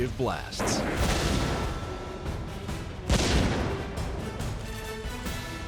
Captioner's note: gunshot, explosion